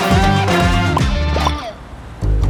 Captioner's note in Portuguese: bolhas estouram